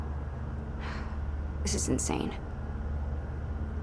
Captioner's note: sighs